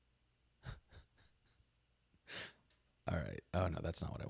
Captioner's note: chuckles